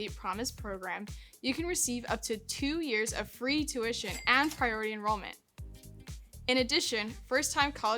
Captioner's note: cash register sound